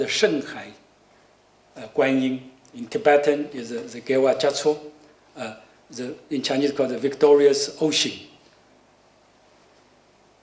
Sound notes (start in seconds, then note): 3.9 non-english speech